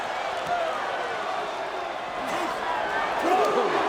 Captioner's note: crowd clamoring